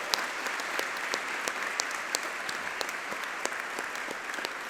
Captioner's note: audience clapping